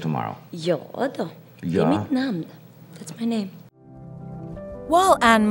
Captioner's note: speaking Swedish